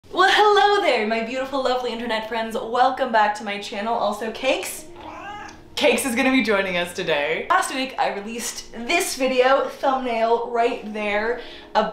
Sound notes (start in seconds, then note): 4.9 cat meowing